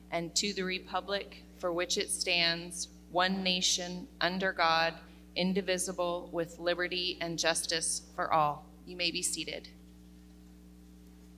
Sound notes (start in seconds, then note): none